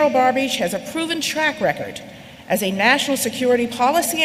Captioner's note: none